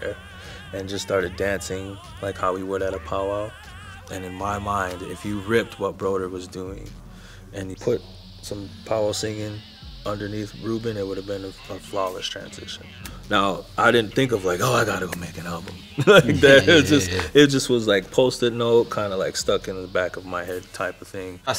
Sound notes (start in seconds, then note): 15.7 laughs